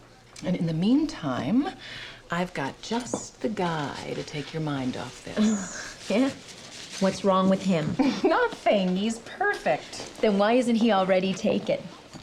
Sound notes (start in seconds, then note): 8.0 chuckles